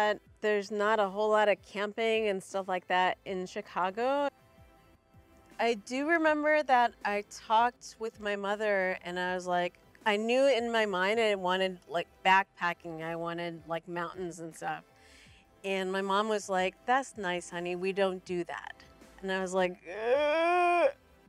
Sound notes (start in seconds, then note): 14.9 gasp